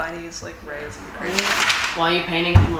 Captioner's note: paper rustling